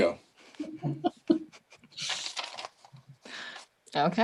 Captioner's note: laughter